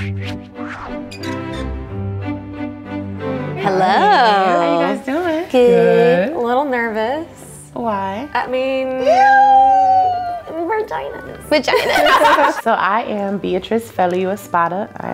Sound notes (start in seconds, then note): 0.1 hinge creaking; 0.1 light classical music; 9.4 squeals